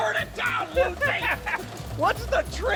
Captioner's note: laughs